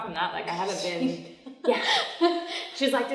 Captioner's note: laughs